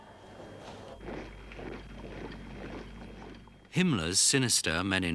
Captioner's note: boots thudding